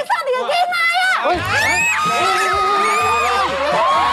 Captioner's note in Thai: เสียงร้อง